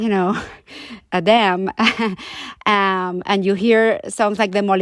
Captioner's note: laughter